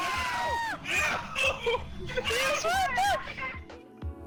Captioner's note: crying